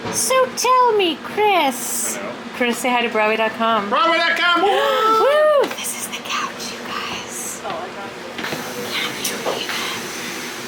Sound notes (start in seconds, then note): 4.7 cheering